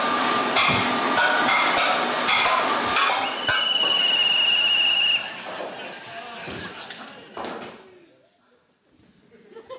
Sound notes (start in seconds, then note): 3.0 blows whistle